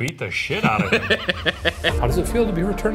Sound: laughing

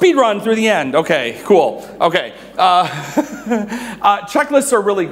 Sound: laughs

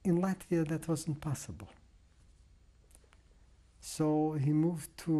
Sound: pauses for 3 seconds

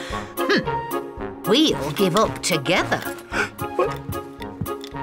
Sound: gasps; huffs

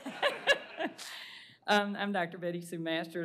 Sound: laughter

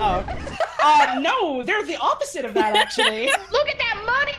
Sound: others laugh

